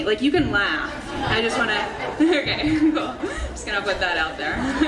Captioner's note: audience laughing